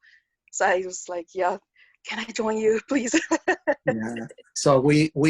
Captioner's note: laughs